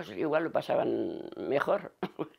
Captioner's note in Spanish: Ríe